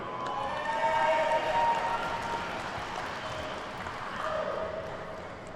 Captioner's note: attendees cheer and clap